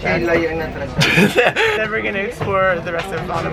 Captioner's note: lols